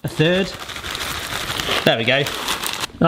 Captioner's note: packet whirring